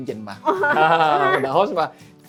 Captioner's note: laugh